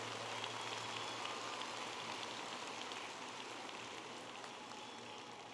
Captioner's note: audience applauding and cheering